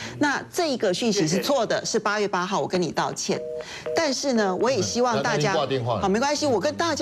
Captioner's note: 掛電話…嘟…嘟…嘟…